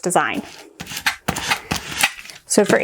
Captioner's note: scrapping